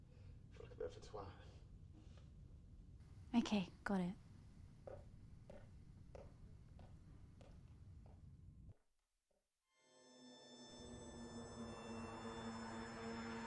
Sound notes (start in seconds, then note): 4.8 footsteps tapping; 9.8 tense unsettling music